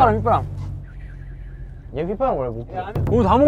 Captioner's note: whistle